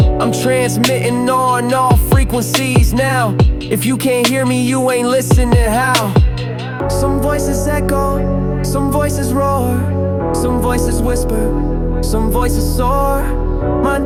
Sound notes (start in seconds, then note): 9.4 voices roar